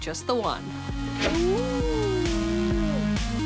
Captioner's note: whines